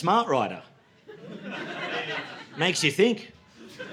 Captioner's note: laughter